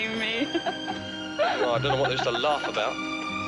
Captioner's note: laughing